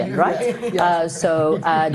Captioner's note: all laughing